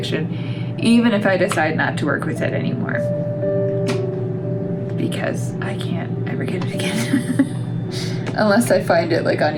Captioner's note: laugh